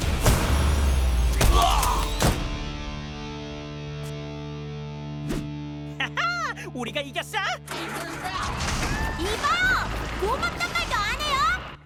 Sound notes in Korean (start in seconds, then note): 1.3 두리안 신음; 7.7 버스 시동 소리